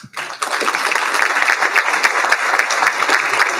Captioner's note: applauding